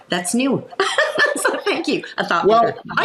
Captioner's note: laughs